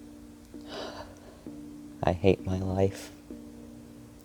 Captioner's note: sigh